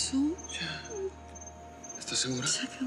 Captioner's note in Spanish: habla entre dientes; sollozos